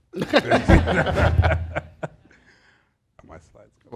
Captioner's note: laughter